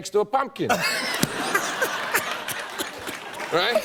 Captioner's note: laughter and applause